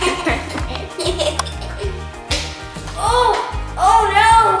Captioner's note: laughing